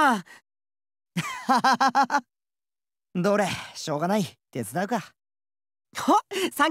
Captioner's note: laugh